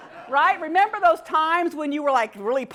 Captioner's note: laugh